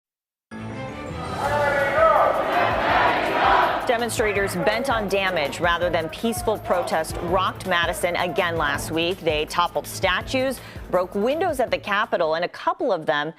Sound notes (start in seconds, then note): 5.4 crowd chanting